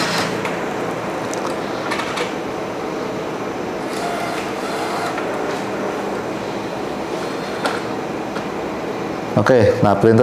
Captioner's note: printer machine sound